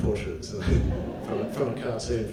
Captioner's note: audience laughs